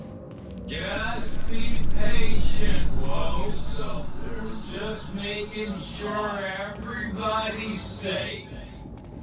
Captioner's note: talking slowly to a driver through the stutter